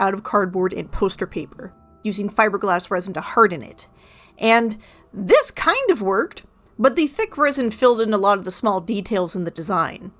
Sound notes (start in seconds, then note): none